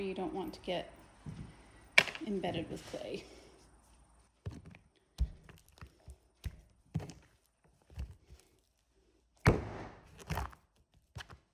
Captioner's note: loud thunking sounds